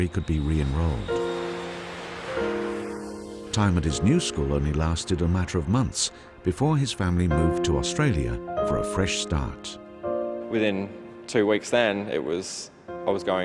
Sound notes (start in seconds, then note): 0.0 voiceover; 1.9 aeroplane engine roars